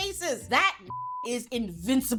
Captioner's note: beep